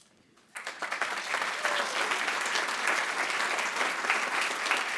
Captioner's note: attendees applauding